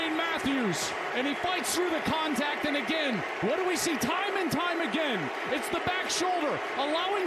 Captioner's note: cheers and applause